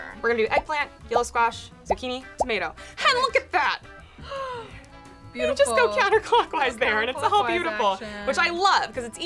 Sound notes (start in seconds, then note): 4.2 gasps